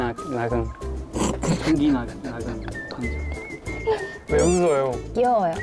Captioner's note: laughter bursts at the cute explanation